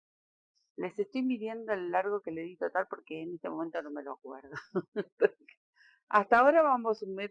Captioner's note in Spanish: risas